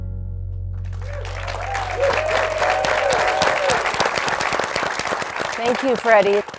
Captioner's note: cheering and applause